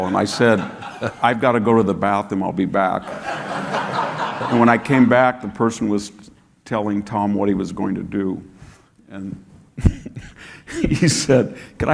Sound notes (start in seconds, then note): 3.0 audience laughing; 9.8 chuckles